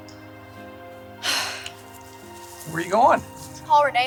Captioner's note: Joy sighs